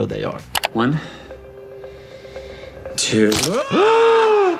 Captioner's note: Hughie screams